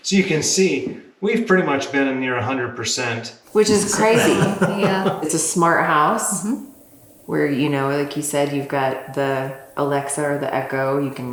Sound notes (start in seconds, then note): 3.5 laughs